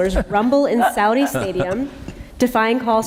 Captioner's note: laughter